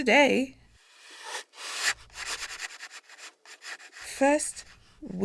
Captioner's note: pencil on paper